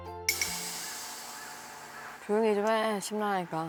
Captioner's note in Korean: 까마귀 우는 소리